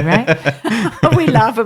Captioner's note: laughing